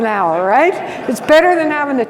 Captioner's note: audience laughs